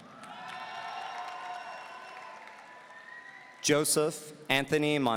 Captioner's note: audience cheering